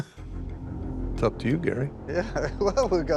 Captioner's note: chuckles